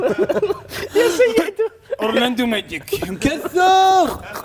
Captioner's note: burp